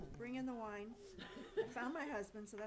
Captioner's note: laughing